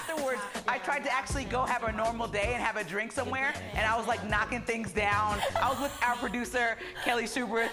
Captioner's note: laughter